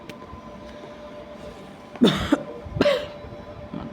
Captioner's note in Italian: Tosse 1 e Tosse 2